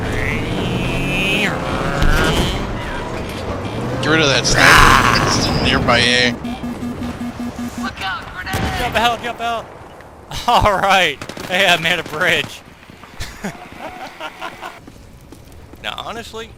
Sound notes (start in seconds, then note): 13.2 laughter